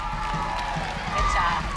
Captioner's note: crowd cheering